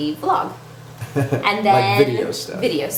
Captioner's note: laughs